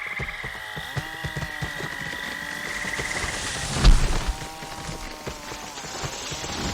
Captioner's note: chainsaws roar and sounds of nature fade